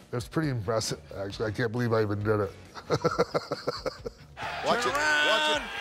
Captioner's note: laugh